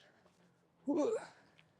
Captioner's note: grunting